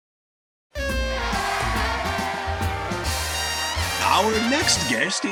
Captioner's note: upbeat jazz music; audience cheering